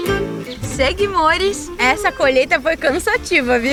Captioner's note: birds